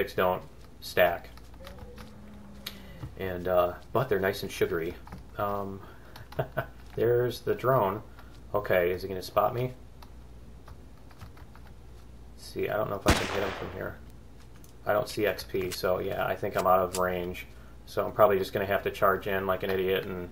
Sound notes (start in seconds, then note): 6.1 laughs; 10.3 gunfire; 17.4 reloading